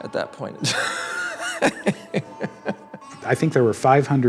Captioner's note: laughs